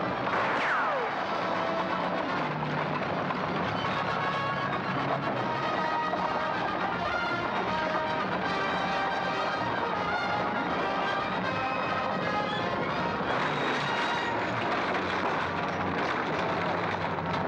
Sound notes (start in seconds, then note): 0.2 bullet whizzes; 2.1 dramatic music; 2.1 hooves pounding; 13.4 wagon crashing